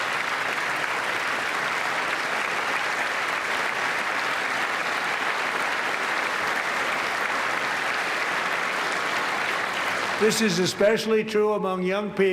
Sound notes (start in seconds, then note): 0.0 applause